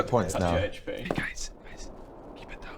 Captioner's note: whispering